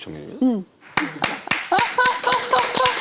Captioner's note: clap! Clap! Clap!